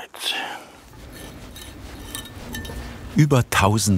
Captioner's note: metallic sounds